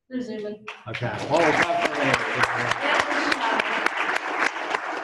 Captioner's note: applause